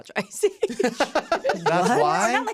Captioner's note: laughs; laughing